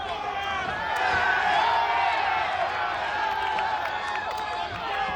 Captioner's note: audience cheers